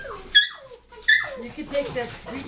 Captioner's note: dog whining